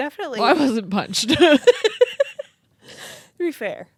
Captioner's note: laugh